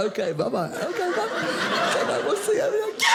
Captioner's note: audience laughing